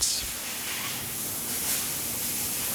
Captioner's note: hissing